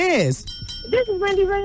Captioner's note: bell dings